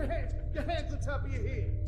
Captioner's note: echoing voice over